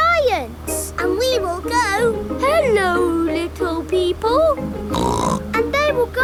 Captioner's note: snorts